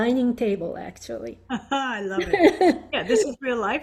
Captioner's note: laughs